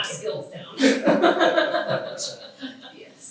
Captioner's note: all laugh